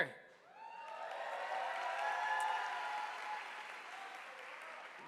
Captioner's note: audience applauding